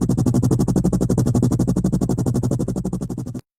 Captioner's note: helicopter sounds